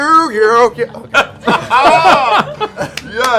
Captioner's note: laughter